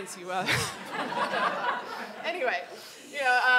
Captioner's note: audience laughing